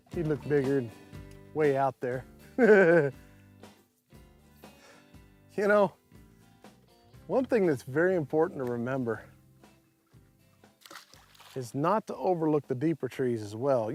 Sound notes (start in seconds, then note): 2.6 laughs